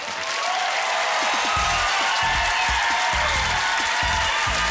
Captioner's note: cheering